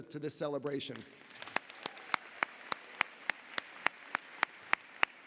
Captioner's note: audience applauding